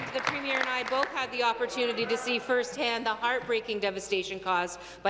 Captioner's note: applause